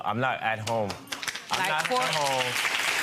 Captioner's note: audience applause